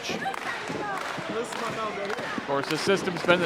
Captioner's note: crowd clapping